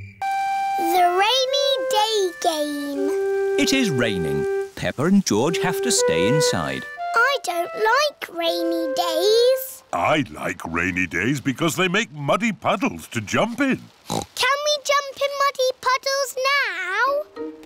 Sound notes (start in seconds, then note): 14.0 oinks